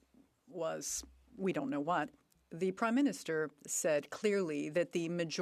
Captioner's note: none